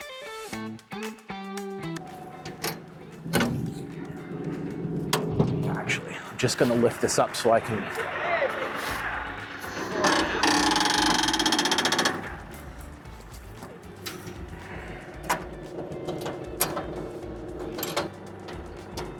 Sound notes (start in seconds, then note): 3.5 motor whirring; 10.4 motor whirring; 12.8 upbeat music